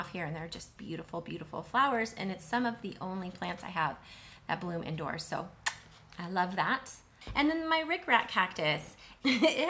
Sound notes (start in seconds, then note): 5.6 kisses